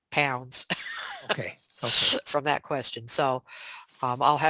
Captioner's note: laughs